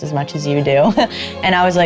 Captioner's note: laughing